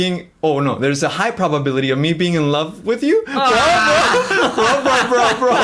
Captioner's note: laughs